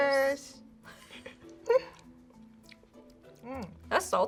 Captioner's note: chuckles